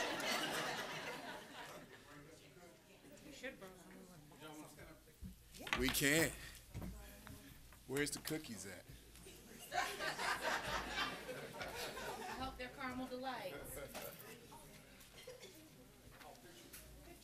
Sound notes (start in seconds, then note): 0.0 applause; 4.5 laughter